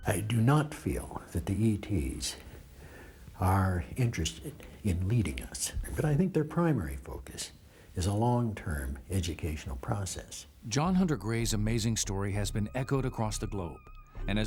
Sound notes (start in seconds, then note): 10.9 voiceover